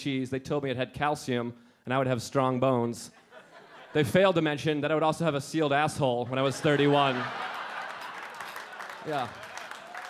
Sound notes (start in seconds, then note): 3.2 audience laughing; 6.4 audience laughing and clapping